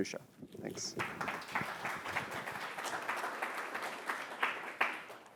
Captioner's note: applause